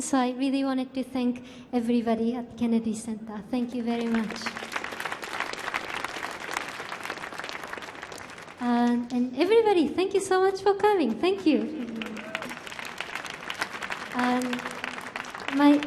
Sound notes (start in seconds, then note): 4.8 audience cheering; 11.4 audience applauding